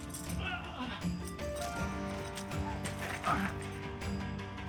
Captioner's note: Beauregard groaning